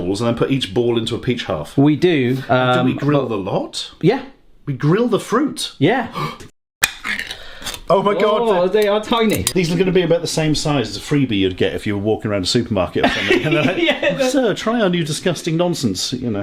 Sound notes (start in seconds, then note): 6.1 gasping; 9.2 lid scraping; 13.0 laughing